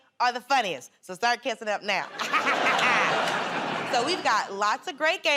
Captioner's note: laughter